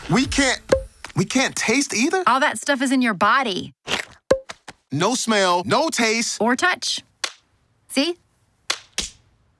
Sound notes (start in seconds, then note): 8.6 slapping sound